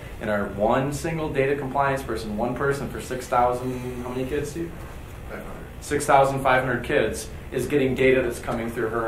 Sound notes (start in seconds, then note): 5.0 man speaking softly off microphone